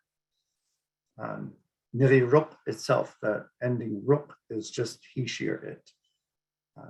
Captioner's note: speaking Inupiaq